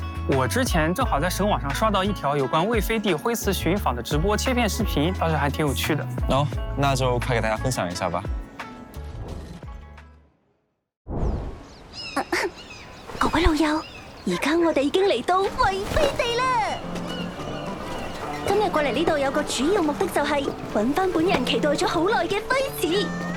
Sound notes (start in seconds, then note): 12.2 cough cough